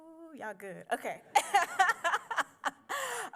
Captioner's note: laughs